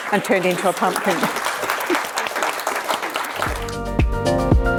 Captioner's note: crowd clapping